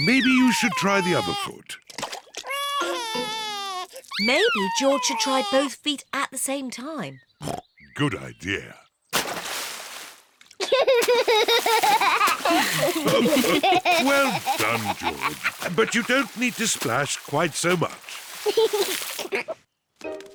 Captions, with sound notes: Maybe you should try the other foot. (CRIES) Maybe George should try both feet at the same time. (OINKS) Good idea. (LAUGHS) (ALL LAUGH) Well done, George. But you don't need to splash quite so much. (GIGGLES)